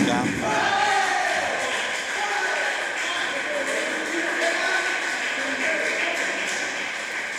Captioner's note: applause